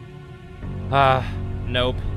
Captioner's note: sigh